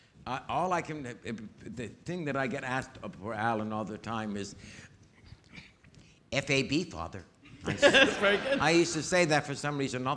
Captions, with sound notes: The thing that I get asked about Alan all the time is, F-A-B, father. (audience laughing) - That's very good. - I used to say that for some reason